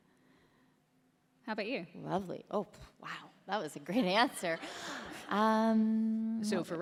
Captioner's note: laughter